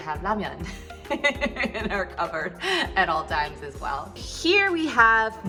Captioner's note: laughs